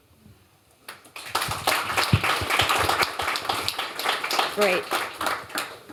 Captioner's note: applause